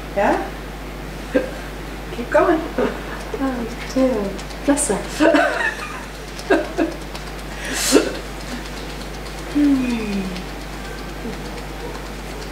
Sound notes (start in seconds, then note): 5.7 laughs; 6.9 fingers tapping